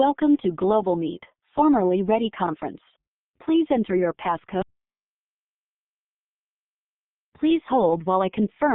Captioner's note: lady's recorded voice